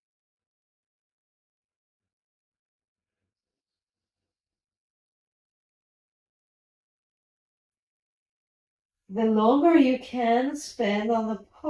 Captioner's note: silence